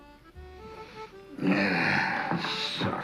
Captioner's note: sighs